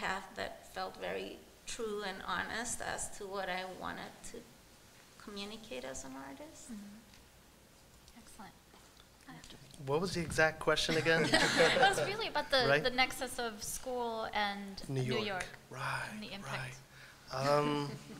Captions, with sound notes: that felt very true and honest as to what I wanted to communicate as an artist. - Excellent. - What was the exact question again? (laughter) - It was really about the nexus of school and New York. - Right. - And the impact.